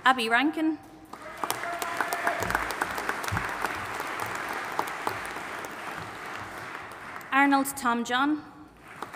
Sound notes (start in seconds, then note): 1.1 audience applauding